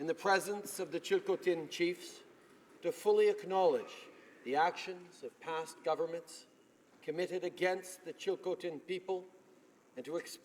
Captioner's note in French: voix de l'interprte